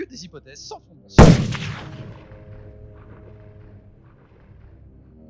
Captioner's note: shots fired